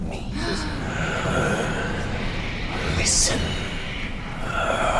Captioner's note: gasping, breathy voice